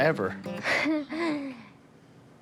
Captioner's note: laughs